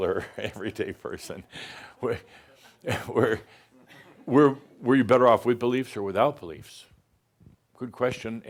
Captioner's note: chuckles